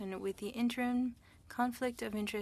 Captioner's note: speaking French